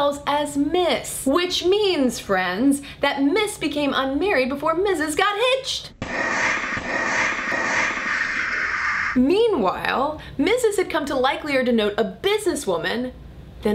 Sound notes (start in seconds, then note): 6.0 slow motion explosion sounds